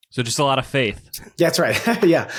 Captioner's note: laughs